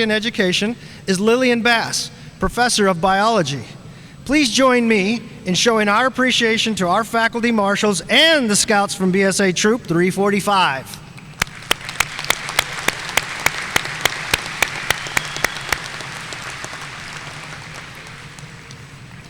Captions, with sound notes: and education is Lilian Bass, professor of biology. Please join me in showing our appreciation to our faculty marshals and the Scouts from BSA Troop 345. (audience applauding)